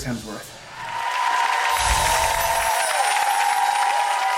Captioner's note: audience cheers